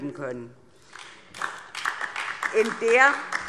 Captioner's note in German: Beifall DIE LINKE